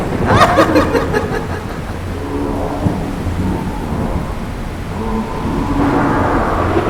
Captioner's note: eldritch sounds, wind getting closer